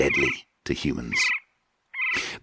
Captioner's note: birds cawing